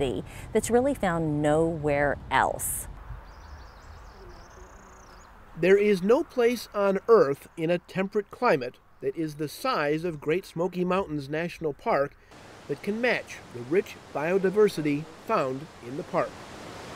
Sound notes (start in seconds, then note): 3.1 birds chirping; 6.3 voiceover